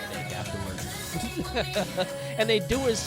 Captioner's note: laughing